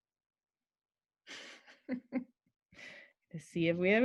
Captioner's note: laughter